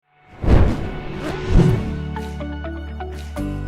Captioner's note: air whooshing; upbeat music